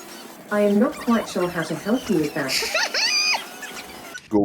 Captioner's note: holding in laughter